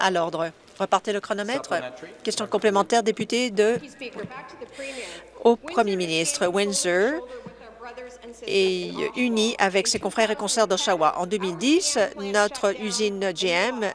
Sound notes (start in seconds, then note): none